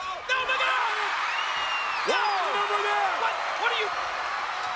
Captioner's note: audience cheering